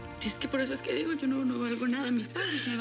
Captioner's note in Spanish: sollozos